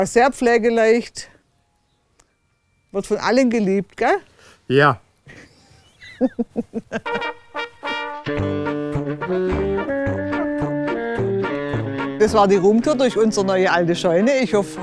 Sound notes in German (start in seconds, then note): 5.2 Lachen; 7.1 Beschwingte Blasmusik